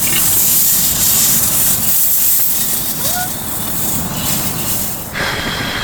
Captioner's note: gas leak